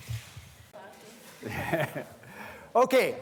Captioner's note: laughs